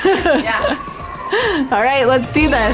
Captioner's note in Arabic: يضحك كريستال